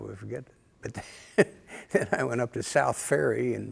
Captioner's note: laughter